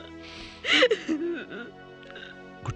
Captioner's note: crying